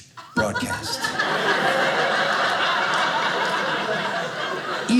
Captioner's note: audience laughing